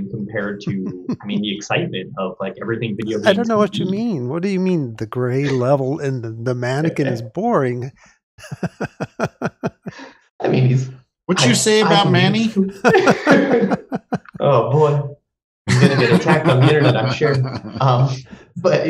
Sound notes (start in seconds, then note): 8.4 chuckles; 12.7 laughter